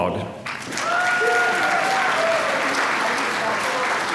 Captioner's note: applause